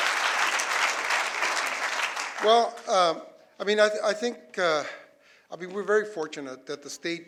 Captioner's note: applause